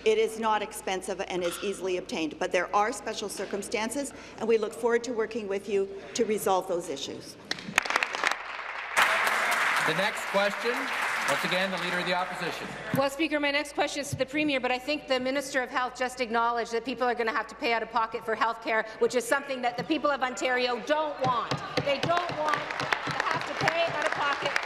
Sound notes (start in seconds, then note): 10.5 applause